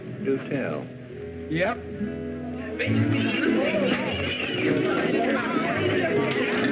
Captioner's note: chatter